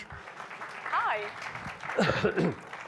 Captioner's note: audience clapping